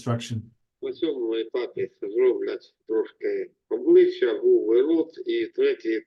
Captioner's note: speaking in foreign language